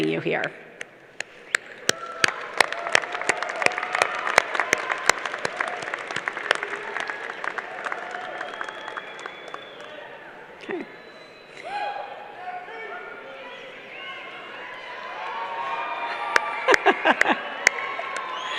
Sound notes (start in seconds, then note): 6.5 clapping